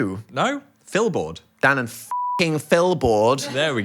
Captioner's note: beep